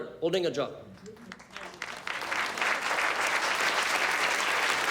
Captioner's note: audience applauds